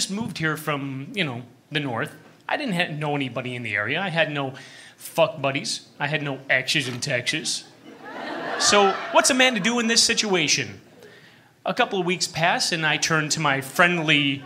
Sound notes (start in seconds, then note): 7.6 laughter